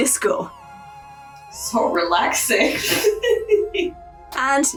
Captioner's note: laugh